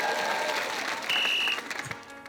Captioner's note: cheering, applause; blows whistle